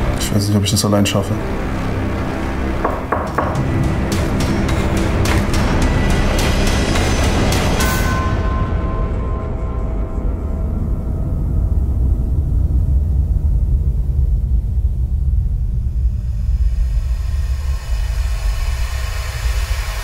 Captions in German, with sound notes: Ich weiß nicht, ob ich das alleine schaffe. *Klopfen* *Dramatische Musik* *Glockenschlag*